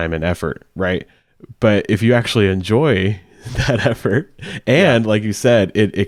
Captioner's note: chuckling